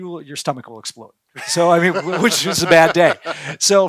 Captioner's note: laughing